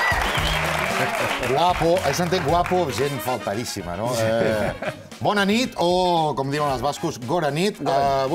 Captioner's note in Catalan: aplaudiments